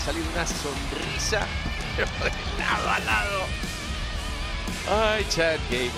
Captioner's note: laugh